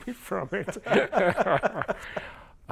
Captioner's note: laughter